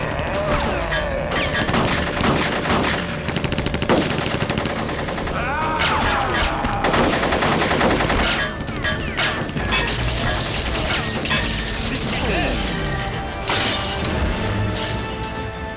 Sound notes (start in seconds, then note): 0.1 growls; 6.0 roars; 10.3 electricity crackles